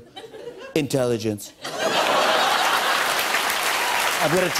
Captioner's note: laughter and applause